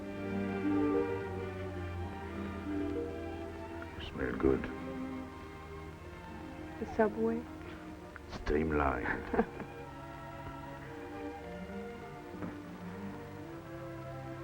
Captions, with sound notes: - You smell good. - The subway? - Streamlined. (she chuckles) (romantic orchestral music)